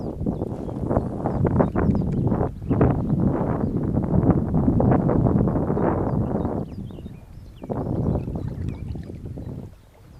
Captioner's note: wind howling, birds singing